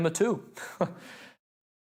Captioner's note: laughter